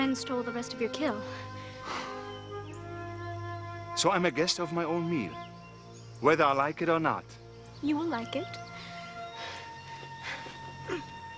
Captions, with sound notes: some friends stole the rest of your kill. - (snorts) So I'm a guest of my own meal, whether I like it or not. - You will like it. (breathing heavy)